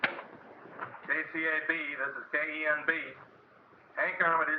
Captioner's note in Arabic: راديو